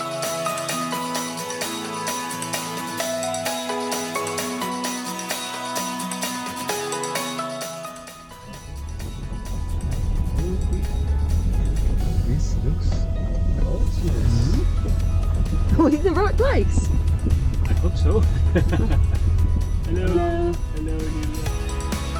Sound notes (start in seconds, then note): 18.1 laughing